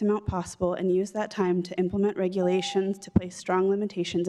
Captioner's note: beep